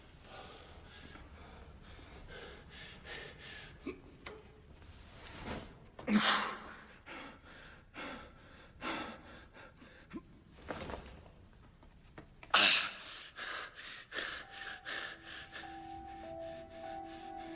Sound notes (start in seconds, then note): 3.9 Matthew grunting and breathing heavily; 14.4 foreboding music playing